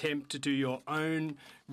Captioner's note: speaking French